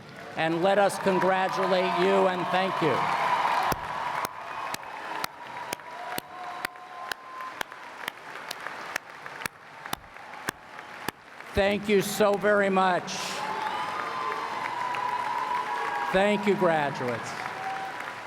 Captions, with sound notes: and let us congratulate you and thank you. [ Applause ] Thank you so very much. [ Applause ] Thank you graduates.